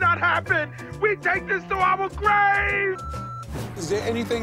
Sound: beep

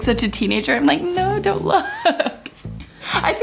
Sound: laughing

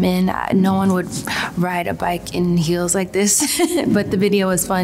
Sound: chuckles

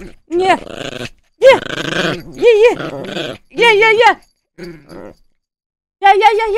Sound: Puppy gremlin growls; puppy gremlin growls & grumbles; more puppy gremlin noises

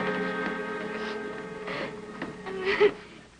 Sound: giggling

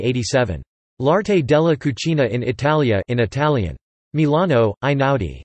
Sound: in Italian

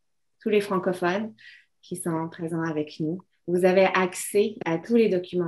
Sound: speaking French

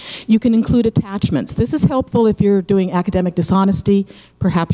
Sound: none

